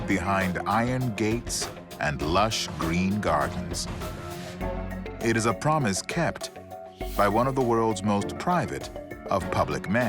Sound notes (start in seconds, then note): none